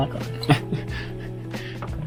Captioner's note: laughter